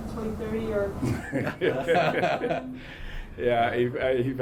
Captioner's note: both laugh